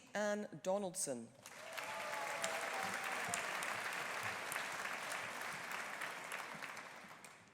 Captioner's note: audience applauding; audience cheering